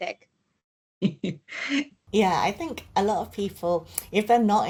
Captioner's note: chuckles